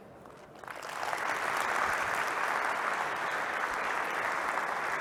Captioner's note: applause